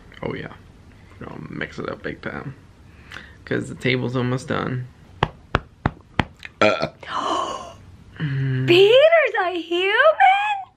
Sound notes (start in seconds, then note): 6.5 burps; 8.2 gasps